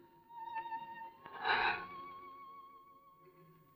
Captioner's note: sighs